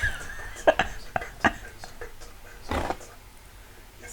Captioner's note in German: lacht